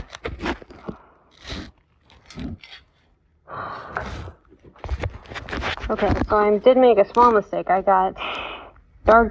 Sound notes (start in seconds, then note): 3.6 little sigh